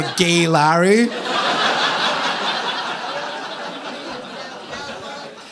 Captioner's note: audience laughing